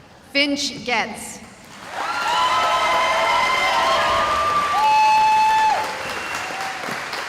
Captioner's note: cheering